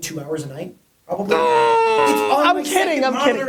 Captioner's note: Gary groans